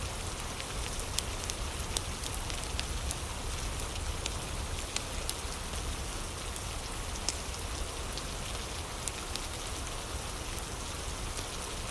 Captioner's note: fire crackling